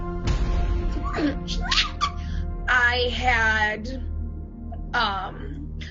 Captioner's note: squeaks